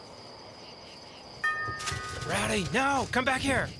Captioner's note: doorbell